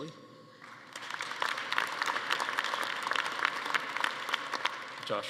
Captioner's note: attendees applauding